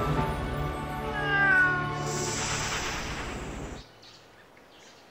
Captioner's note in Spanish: gato maullando